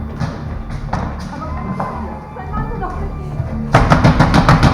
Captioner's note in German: Schritte; Weinen und gedämpfte Stimmen; Lautes Klopfen